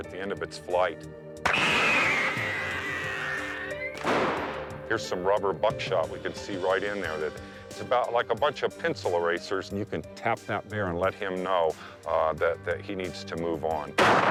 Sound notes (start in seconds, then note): 1.4 device whistling; 1.4 gun blasting; 4.0 device banging; 14.0 gun blasting